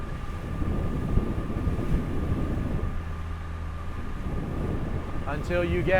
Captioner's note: engine revving; wind whooshing